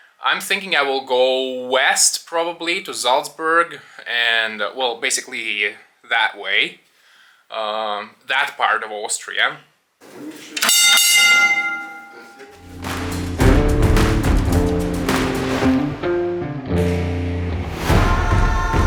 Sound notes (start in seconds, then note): 10.6 bell dings; 12.6 upbeat rock music